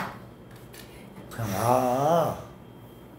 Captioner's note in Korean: 한숨